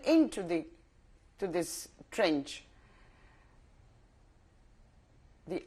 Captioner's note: pauses for 3 seconds